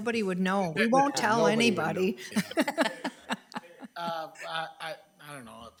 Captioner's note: laughs